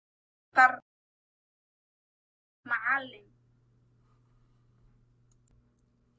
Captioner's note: speaking in foreign language